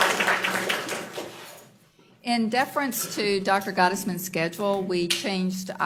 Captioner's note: applause